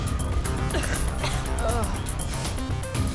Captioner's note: woman coughing